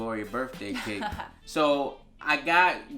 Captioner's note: laughs